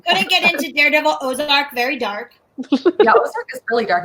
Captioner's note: laughs